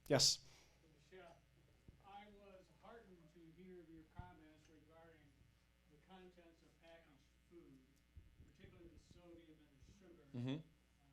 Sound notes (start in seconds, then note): 1.8 voiceover